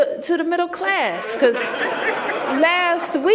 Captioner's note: laughter